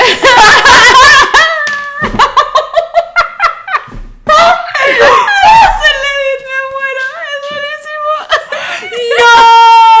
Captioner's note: totally hilarious, they're dying of laughter